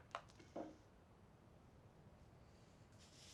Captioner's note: none